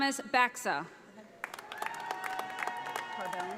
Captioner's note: audience applauding